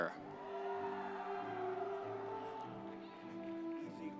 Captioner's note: audience cheering